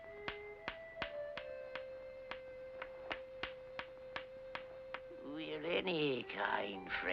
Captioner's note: tapping sound